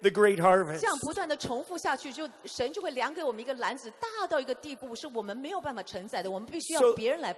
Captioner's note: interpreter speaking in foreign language